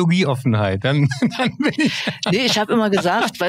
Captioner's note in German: lacht